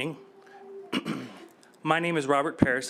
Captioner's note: coughs